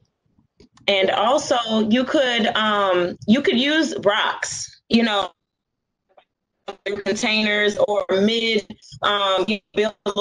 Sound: audio malfunction

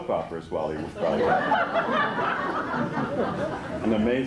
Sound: laughter

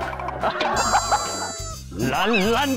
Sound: hahahaha

